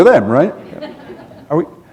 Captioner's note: laughter